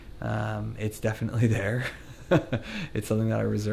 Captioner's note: laughs